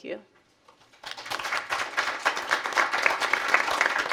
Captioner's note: applause